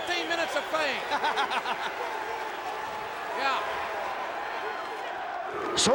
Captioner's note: laugh